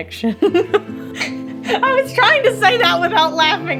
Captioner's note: laughing